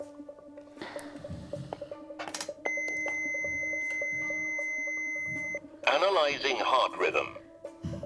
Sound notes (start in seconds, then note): 2.6 machine beeping; 5.7 robotic Voice